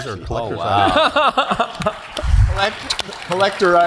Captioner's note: laugh; applause